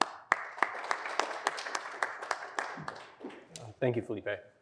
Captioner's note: applause